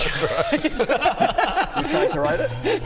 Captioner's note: patronising giggles